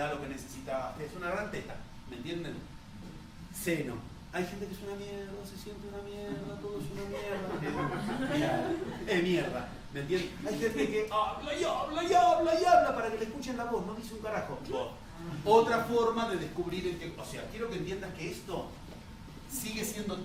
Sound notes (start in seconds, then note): 6.3 laughter